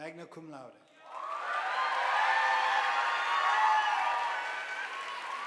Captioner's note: audience applauding